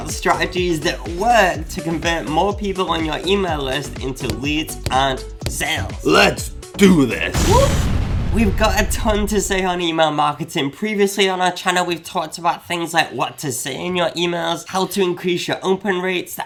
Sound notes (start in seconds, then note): 7.2 explosion booms